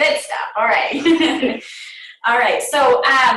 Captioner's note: laughter